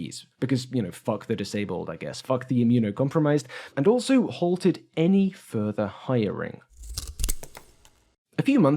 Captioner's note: snip